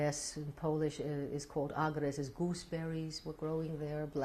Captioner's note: non-english